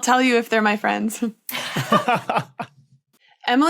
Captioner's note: laughs; blurts laugh